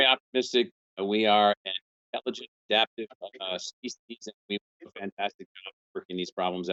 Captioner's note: murmurs